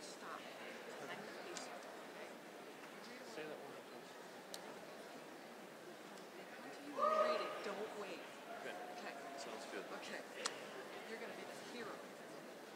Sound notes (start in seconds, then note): none